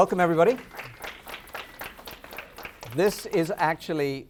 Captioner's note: applause